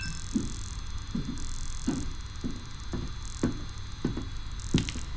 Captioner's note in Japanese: 電子音; 足音